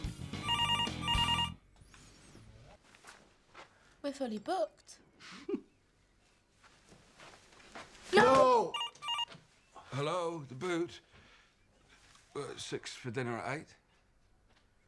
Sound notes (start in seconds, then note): 0.4 phone ringing; 6.0 Loz chuckles; 8.7 phone ringing